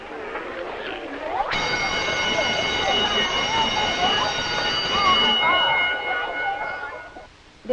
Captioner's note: soft chattering; bell ringing